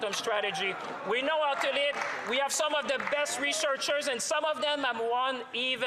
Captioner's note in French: voix de l'interprète